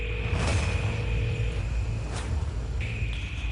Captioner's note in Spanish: La otra línea timbra